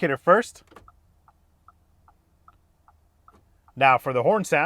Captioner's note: indicator clicking